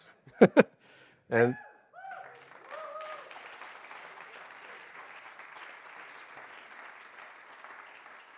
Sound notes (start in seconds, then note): 2.0 audience applauding